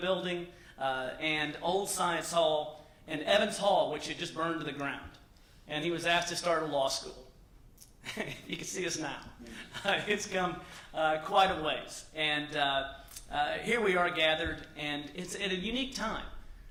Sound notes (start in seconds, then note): 8.0 laughter